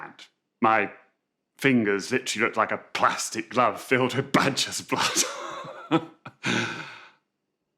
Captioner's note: chuckles